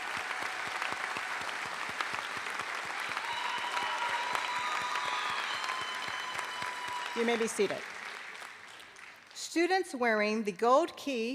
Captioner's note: applause